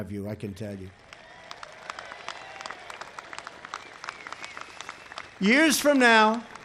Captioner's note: applause